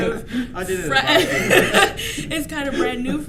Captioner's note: laughs